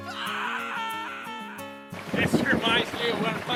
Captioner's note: screams; thunder claps